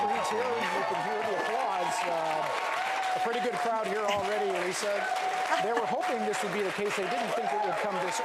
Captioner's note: applause & Cheering